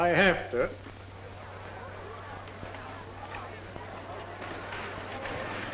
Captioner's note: group chattering